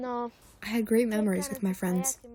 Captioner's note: through translator